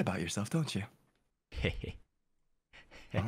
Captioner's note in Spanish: Se ríe Magiavolicamente